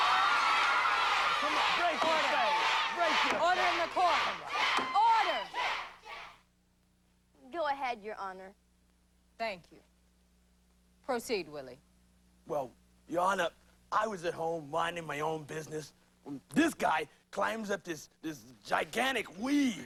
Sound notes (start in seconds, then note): 5.2 crowd stops chanting